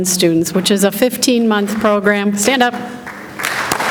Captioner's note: clapping